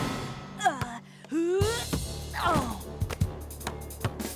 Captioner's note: bell dings; grunting